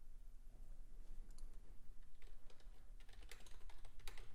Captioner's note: typing